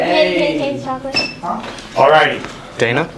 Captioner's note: sneakers squeak